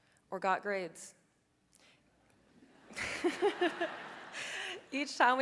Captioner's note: audience laughing